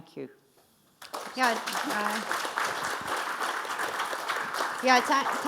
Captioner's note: audience applauding